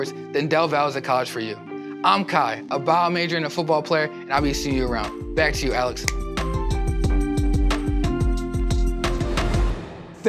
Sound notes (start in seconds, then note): 6.0 fingers snapping; 7.2 upbeat music